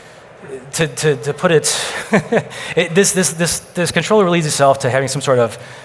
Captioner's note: laughs